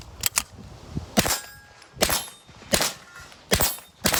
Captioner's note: gun bangs